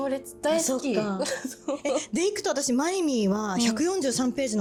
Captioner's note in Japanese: 笑い